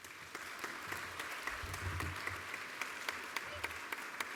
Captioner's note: applause